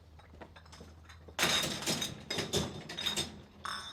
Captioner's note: milk bottles clanking